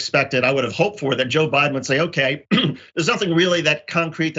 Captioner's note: cough